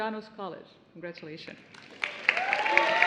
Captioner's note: applause